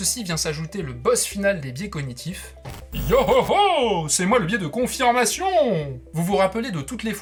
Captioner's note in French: bruit écran qui s'allume